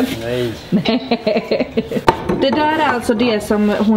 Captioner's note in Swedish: skrattar